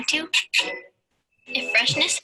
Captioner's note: lips squeaking